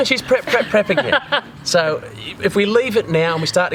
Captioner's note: laughter